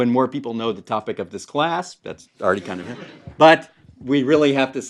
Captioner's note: laugh